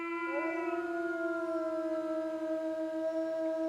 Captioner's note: wolf howling